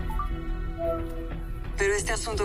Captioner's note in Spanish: Pitido